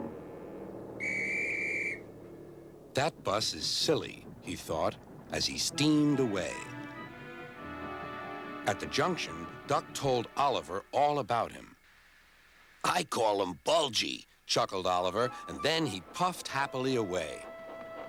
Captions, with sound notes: ( whistles ) "THAT BUS IS SILLY," HE THOUGHT AS HE STEAMED AWAY. AT THE JUNCTION, DUCK TOLD OLIVER ALL ABOUT HIM. "I CALL HIM BULGY," CHUCKLED OLIVER. AND THEN HE PUFFED HAPPILY AWAY.